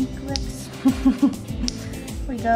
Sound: laughs

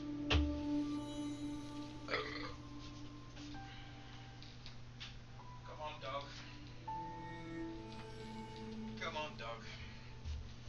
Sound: burps

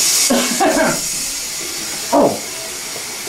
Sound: clears throat

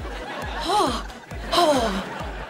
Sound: gasping

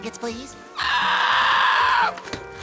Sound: screaming

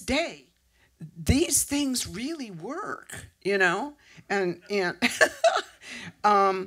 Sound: laughs

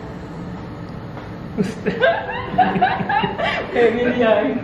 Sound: both laughing

